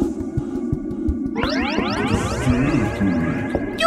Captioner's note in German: Geheimnisvolle Musik; Spacige Geräusche